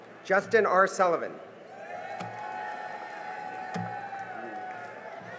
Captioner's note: cheering and applause